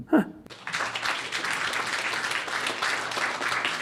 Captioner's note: applause